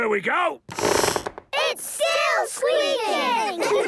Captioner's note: squeaks